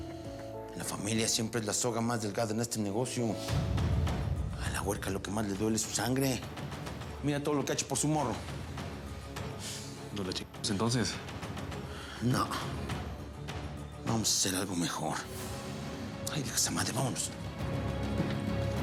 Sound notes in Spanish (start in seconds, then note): none